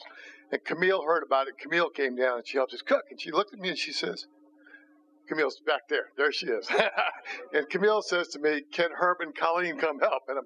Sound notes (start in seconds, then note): 6.6 laughs